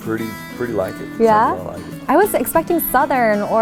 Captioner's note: murmurs